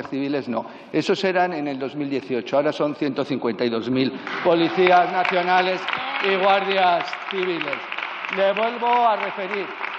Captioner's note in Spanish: Aplausos